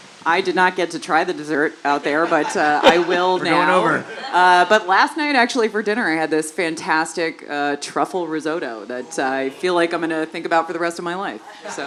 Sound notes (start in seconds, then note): 2.0 laugh